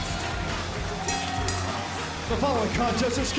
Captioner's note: bell ringing